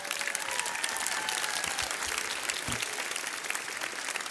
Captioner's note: audience cheers